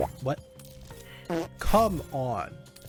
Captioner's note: fart